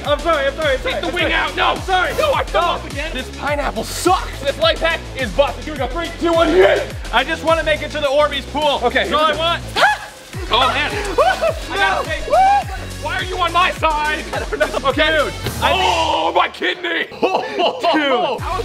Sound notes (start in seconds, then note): 10.1 screaming; 17.2 chuckle